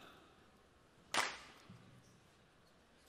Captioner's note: clap